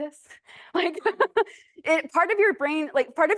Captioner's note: laughs